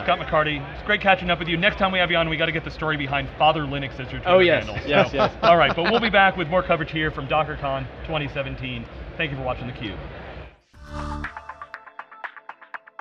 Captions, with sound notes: >> Scott McCardy, it's great catching up with you. Next time we have you on we got to get the story behind "fatherlinux" as your-- >> Yes! (laughs) >> Alright, but we'll be back with more coverage here from DockerCon 2017, thank you for watching theCUBE.